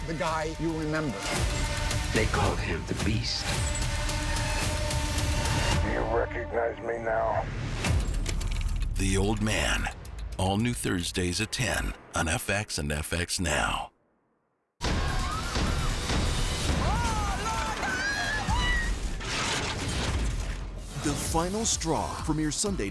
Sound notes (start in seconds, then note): 8.4 dramatic sfx; 16.7 screams; 18.8 crashing